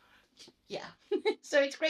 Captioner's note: laughs